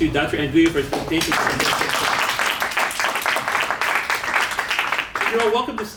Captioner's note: applause